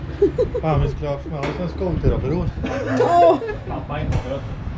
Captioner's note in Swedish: skratt